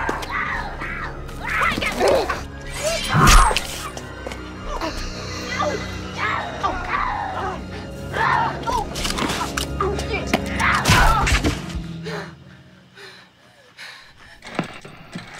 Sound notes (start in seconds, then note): 2.2 squealing; 2.7 stab